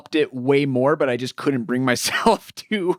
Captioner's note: laughs